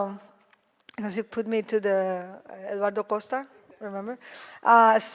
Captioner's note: speaks foreign language